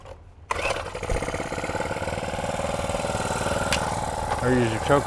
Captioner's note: engine rumbles